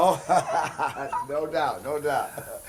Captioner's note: car guy chuckles